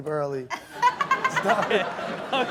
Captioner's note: audience laughs